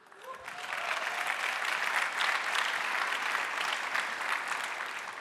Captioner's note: audience applauding